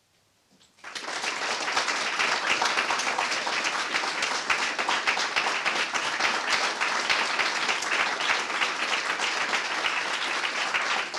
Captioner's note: applause